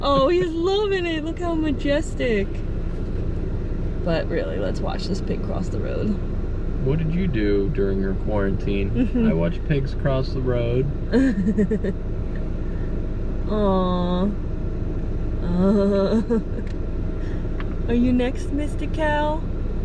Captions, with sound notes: Oh, he's loving it! Look how majestic, but really let's watch this pig cross the road. - What did you do during your quarantine? "I watched pigs cross the road." (laughter) - Aw. Are you next mister cow?